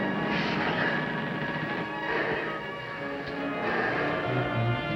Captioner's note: breathing heavily; creaking